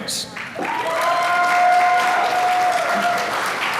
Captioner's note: applause